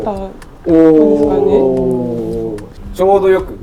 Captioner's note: impressed Japanese sounds